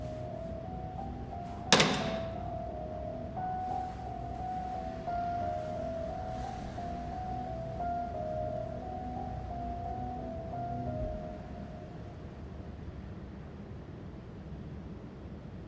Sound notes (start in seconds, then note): 1.6 phone taps